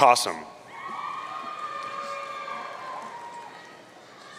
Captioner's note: audience cheering